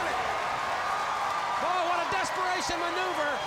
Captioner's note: crowd cheering